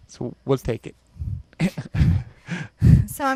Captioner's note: chuckles